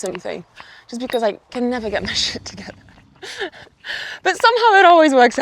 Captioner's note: chuckles